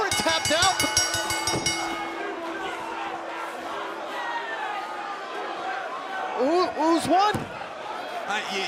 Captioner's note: bell ringing